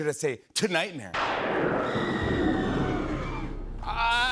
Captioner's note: thunder crashes, woman screams